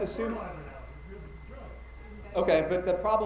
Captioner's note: attendee talking quietly